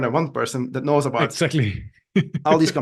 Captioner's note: laughs